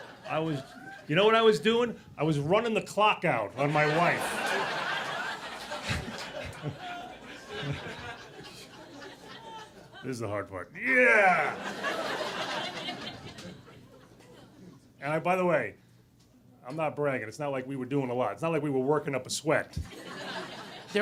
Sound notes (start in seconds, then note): 3.6 audience laughing; 10.8 grunts